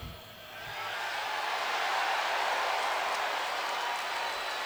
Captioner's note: audience cheers